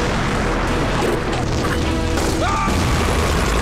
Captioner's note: Gunshots